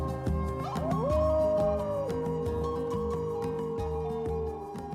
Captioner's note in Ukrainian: виття вовків